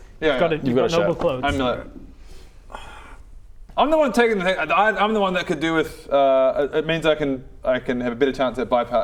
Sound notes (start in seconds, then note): 2.7 sighs in no